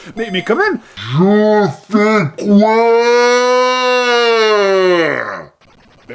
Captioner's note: voice slowed